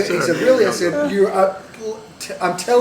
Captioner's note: laughter